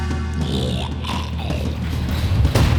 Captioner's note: funky bass theme riff; zombie growls; door slams